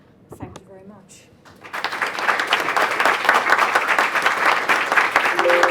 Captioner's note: audience applause